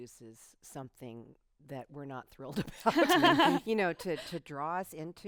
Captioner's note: laughs